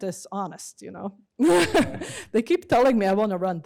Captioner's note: laughs